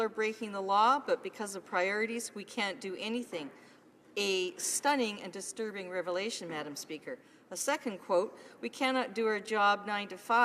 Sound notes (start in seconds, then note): none